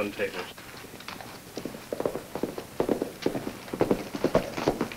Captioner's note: hooves clomp